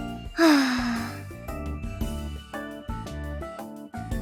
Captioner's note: sigh